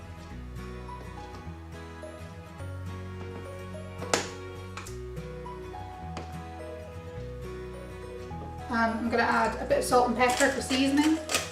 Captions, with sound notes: (lid clicking shut) and I'm gonna add a bit of salt and pepper for seasoning